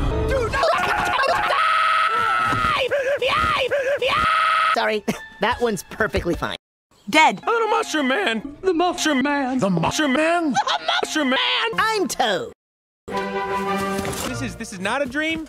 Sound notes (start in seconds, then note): 0.4 screaming; 13.2 suspense music